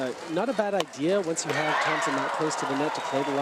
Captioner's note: cheering drowns out speaker